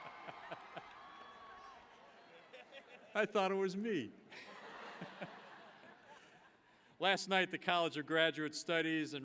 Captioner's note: cheers and applause